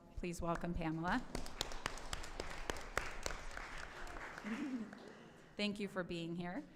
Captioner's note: applause